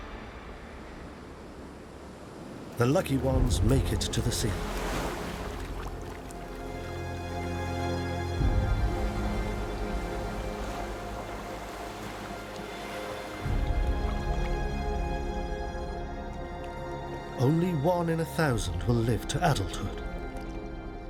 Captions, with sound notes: The lucky ones make it to the sea. (waves crashing) (light dramatic music) Only one in 1,000 will live to adulthood.